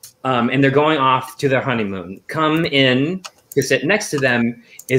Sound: none

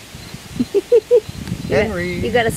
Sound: female narrator laughing

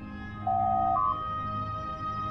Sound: door Chime

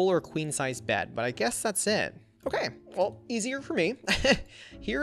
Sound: laughs

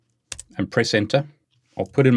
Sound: keyboard key clicks

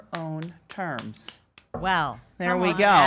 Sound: claps

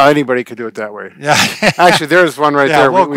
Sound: laughs

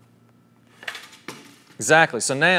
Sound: wood board hitting

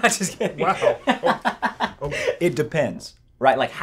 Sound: laughs

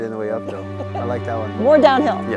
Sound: laughs

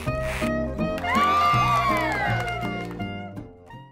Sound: cheering

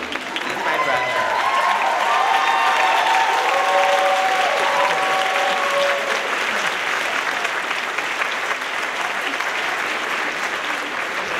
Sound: applause

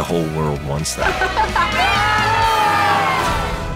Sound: laughs; children shouting

